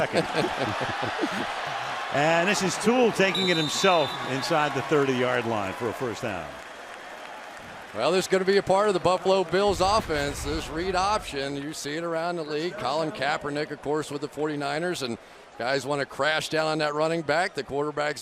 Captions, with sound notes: You were second. [laughter] And this is Tuel taking it himself inside the 30-yard line for a first down. Well, this is going to be a part of the Buffalo Bills' offense, this read option. You see it around the league, Colin Kaepernick, of course, with the 49ers. And guys want to crash down on that running back.